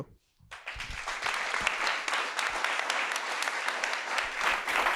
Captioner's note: audience applauds